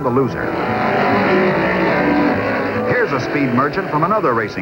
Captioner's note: engine roaring